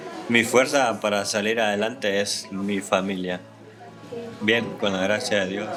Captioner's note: man speaking in Spanish